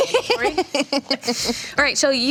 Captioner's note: laughs